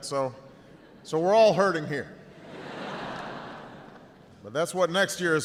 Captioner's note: audience laughs